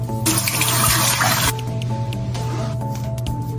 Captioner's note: sink noises; wiping noises; shaving noises